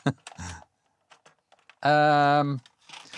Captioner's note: laughs